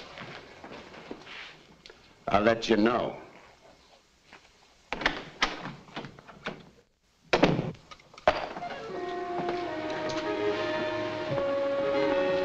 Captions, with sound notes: I'll let you know. (door bangs shut) (tense music)